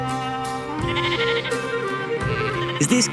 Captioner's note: sheep bleating